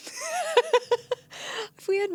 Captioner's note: laughing